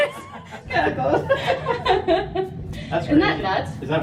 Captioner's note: laughing